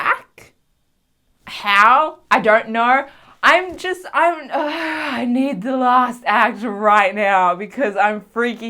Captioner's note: gay sigh